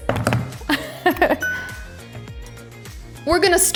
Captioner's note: fingers drumming; bell chimes